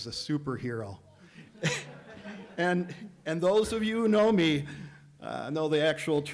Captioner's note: laughter